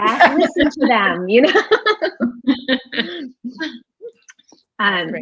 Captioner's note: all laughing